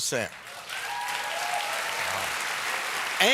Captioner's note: applause